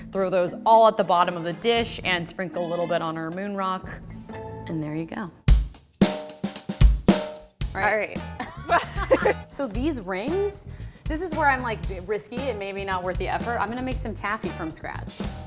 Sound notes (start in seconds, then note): 5.2 upbeat drum music; 8.3 both laugh